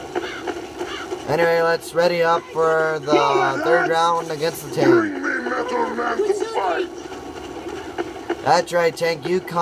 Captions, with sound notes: yep anyway let's ready up for the third round(wave) againest the tank